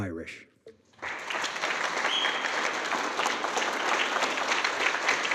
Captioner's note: audience clapping